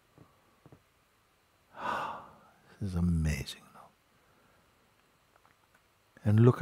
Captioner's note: tiefer Atemzug